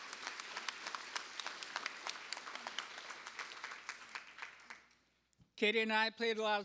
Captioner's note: applause